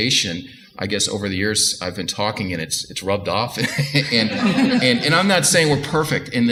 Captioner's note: audience laughter